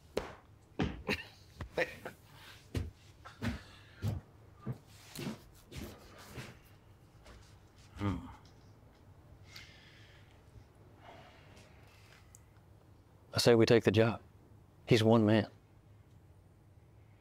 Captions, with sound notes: (Lou laughing) (footsteps receding) - Hmm. - I say we take the job. He's one man.